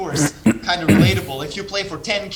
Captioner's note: clearing troat